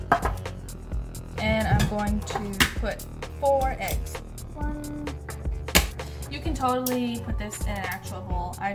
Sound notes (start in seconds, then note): 4.6 counting & cracking eggs